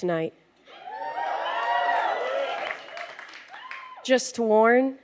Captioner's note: audience cheers